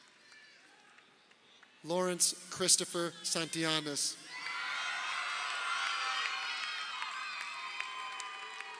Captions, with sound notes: Lawrence Christopher Santillanes. (crowd cheering)